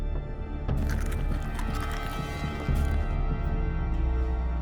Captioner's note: food crunching